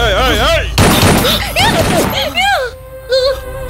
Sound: gunshot

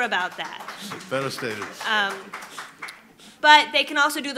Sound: applauding

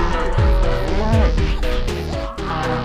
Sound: VERY low pitched air horn toot; shitting music continues; cows moo in the background; more agitated cows moo in the background; cows moo in the background; even lower pitched air horn toot; shitting music continues

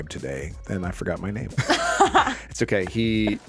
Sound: laughs

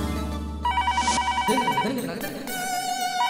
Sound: phone rings

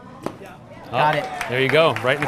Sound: audience clapping

